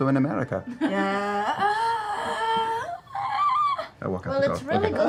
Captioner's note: skeptical noise